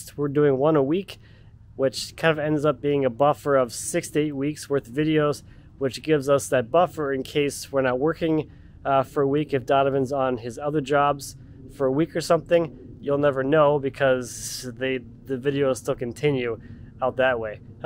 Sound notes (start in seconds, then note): none